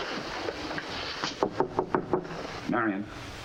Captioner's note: knocks